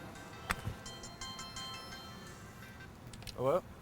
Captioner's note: phone ringing